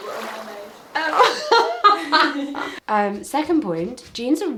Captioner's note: laughs